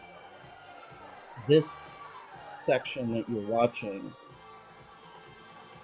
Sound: audience whoops louder

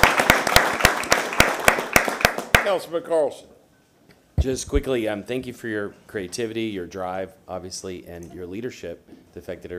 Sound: applause

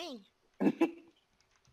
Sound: chuckled

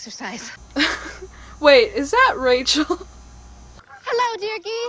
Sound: laughs

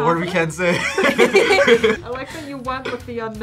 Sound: both laugh

